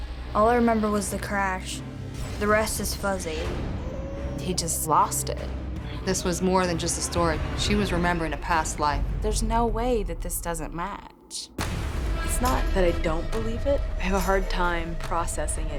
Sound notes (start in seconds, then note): 3.8 kid crying